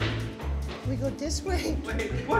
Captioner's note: bad japanese accent